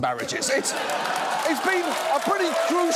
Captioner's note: audience laughs, applauds